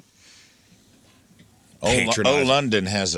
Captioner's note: laughing